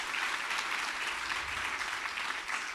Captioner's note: audience applauding